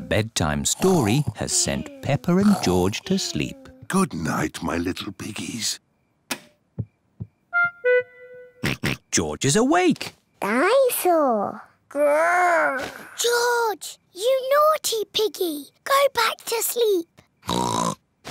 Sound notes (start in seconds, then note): 6.2 light switch clicks; 8.6 oinks; 17.4 oinks